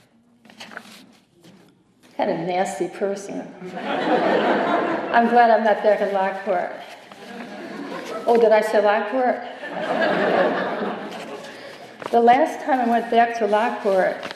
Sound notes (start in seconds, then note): 3.6 laughter; 7.2 giggling; 9.4 laughter